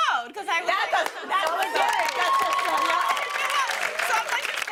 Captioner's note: cheers and applause